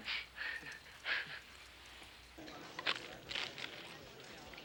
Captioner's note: both snickering